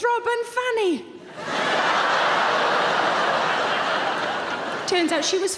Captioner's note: audience laughing